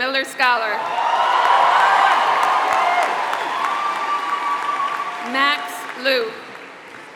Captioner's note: applause